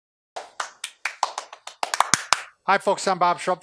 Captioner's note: clapping